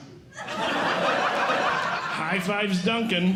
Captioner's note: audience Laughing